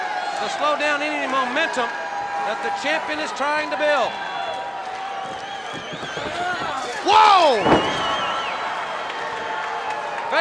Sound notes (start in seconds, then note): 5.2 fence rustling; 8.8 crowd cheering